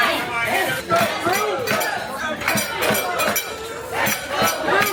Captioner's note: dishes clanking